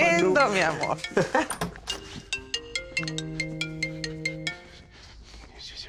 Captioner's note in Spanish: Suena un celular